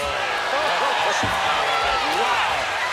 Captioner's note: commentators exclaim